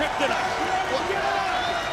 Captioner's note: applause